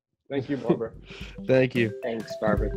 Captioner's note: laughs